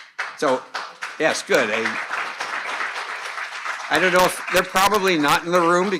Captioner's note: audience applauding